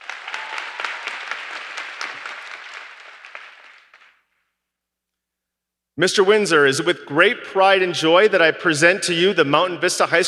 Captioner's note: applause